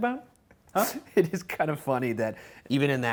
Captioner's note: laughs